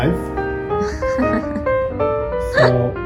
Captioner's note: laughs